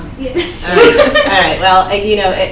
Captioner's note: everyone laughs